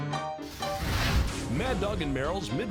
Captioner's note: fire roars